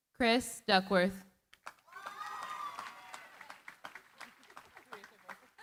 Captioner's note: cheering, applause